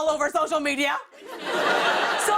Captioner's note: laughter